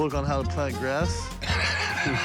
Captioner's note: laughs